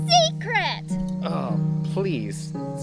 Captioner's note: groans